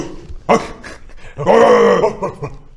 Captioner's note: barking